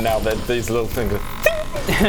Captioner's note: ting!